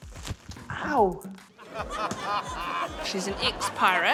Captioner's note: laughter